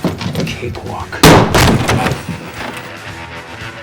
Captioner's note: gunfire